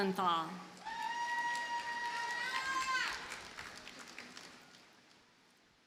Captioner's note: audience cheers and applauds